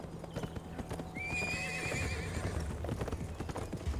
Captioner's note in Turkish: At kişneme sesi